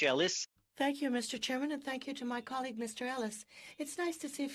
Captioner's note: speaking French